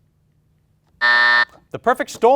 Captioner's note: buzzer buzzing